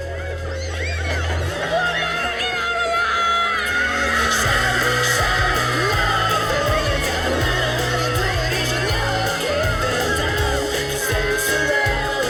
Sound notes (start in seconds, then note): 1.5 screaming